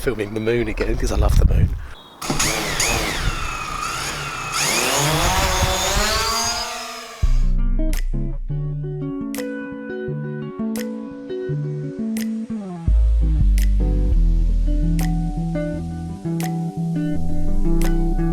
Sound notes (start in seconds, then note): 2.2 engine noises